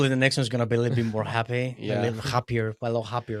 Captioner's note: laughs